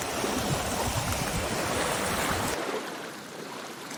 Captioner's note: splash, splash